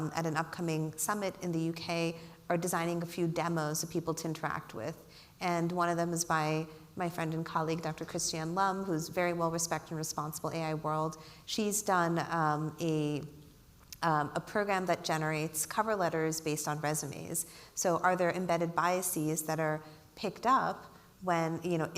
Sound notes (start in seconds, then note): none